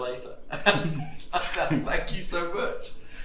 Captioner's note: chuckles